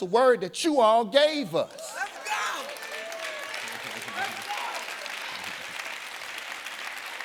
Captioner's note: audience applauding